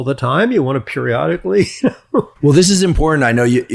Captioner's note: chuckles